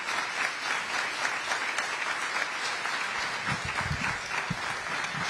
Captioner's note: applause